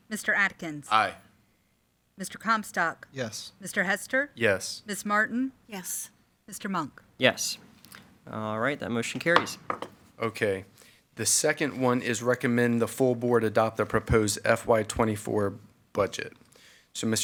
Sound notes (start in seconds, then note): 9.1 gavel pounds